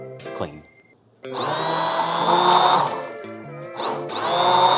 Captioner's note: blender buzzing